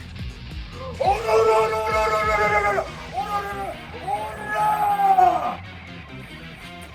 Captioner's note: x15?, fighting noises